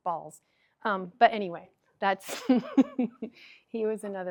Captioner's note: chuckles